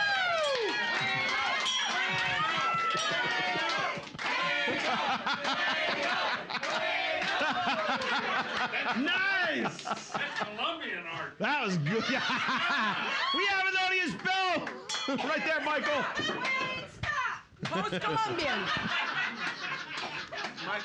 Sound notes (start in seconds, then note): 0.1 audience chanting, "Fuego; 0.1 softly clinking; 9.2 loudly laughing; 11.5 loudly laughing; 14.9 softly clinks; 16.9 audience shouting; 17.7 loudly laughing